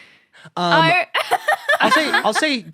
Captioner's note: belly laughs